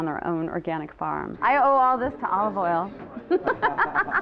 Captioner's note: laughing